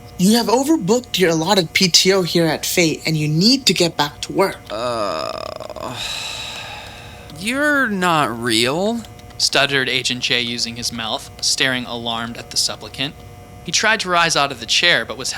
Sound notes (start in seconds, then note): 4.6 groans